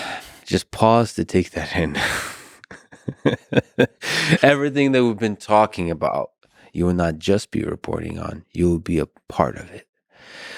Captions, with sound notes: So just pause to take that in. (laughs) Everything that we've been talking about, you will not just be reporting on, you'll be a part of it.